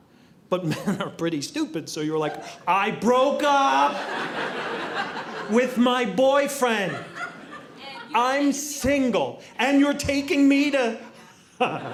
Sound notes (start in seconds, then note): 4.0 audience laughing